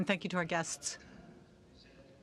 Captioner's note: speaking French